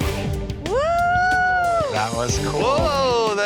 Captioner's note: dramatic music; person cheering